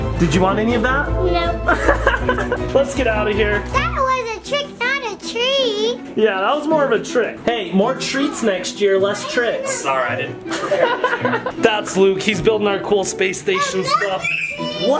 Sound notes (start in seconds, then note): 1.6 laughs; 10.5 laughs